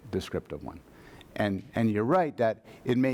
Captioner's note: voiceover